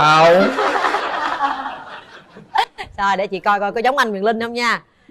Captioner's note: laughter